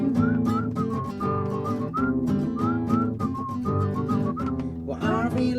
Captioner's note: whistling